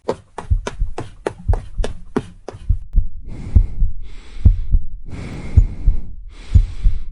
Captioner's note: heartbeats and heavy breathing can be heard